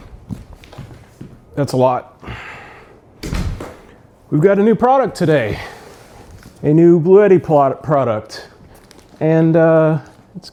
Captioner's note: thump